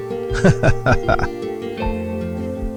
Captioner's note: laughing